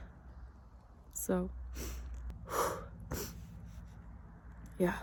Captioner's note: exhales sharply; sniffles